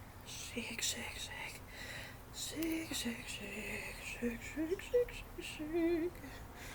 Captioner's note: whispers "shake shake shake" repeatedly